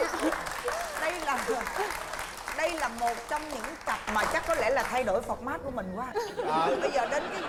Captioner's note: applause